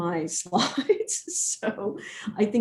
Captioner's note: laughs